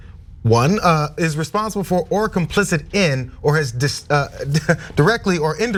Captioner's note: laugh